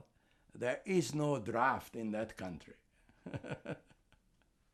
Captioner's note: laughing